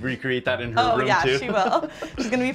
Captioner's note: laughs